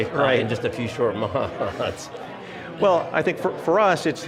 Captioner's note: laughing